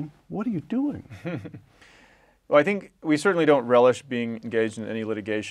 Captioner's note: laugh